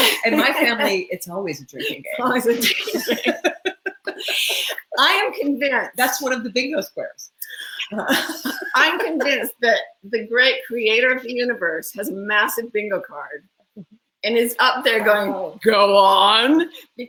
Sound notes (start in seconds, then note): 3.5 laugh; 7.4 laughs